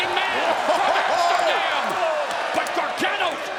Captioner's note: crowd cheering